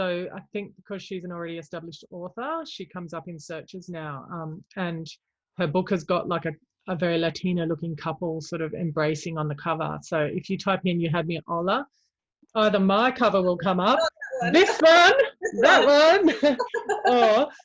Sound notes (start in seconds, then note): 13.9 mumbles; 16.7 both laugh